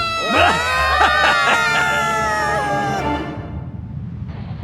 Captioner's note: evil laughter